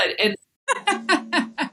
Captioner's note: laugh